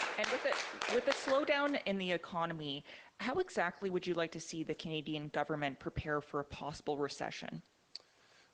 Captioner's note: applause